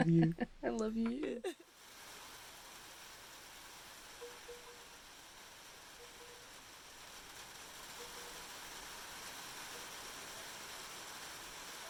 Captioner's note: rain with Bamboo